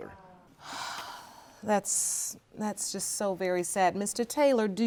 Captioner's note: sighs